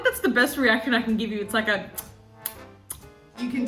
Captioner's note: kissing